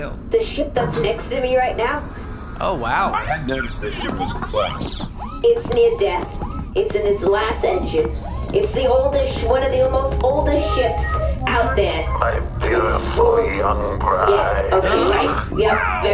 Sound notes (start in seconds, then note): 11.4 beeping as comms link is established; 13.3 gravelly, decrepit voice